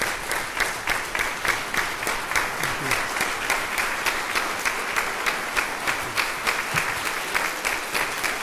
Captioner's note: applause